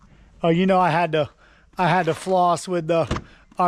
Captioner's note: none